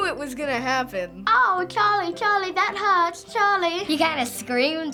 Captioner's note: imitating British accent